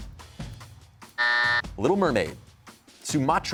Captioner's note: buzzer